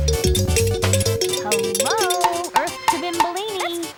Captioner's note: ringing